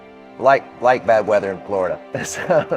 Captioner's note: laughs